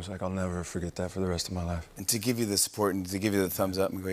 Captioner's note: none